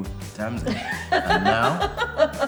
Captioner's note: laughs